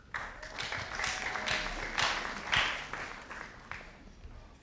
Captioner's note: audience applauding